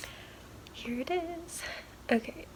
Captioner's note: singsong